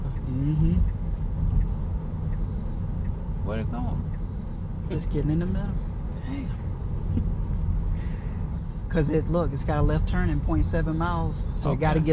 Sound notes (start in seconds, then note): 7.1 chuckles